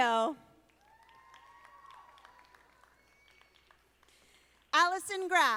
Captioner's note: audience applauding